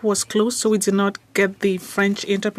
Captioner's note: speaking French